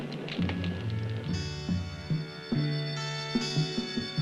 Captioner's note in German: Der Motor des Autos startet